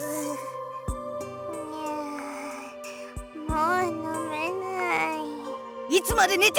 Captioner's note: sleep groan